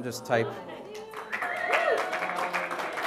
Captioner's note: audience applause